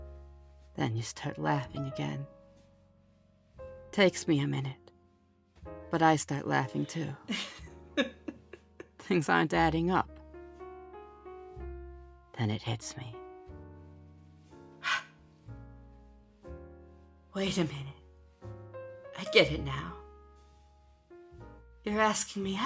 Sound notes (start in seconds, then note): 7.9 laugh